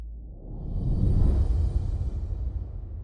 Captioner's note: whoosh!